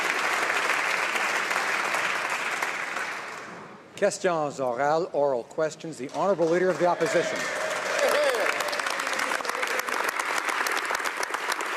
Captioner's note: applause